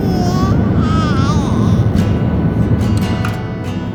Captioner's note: baby cooing; upbeat music